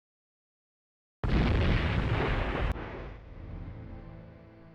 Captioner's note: booming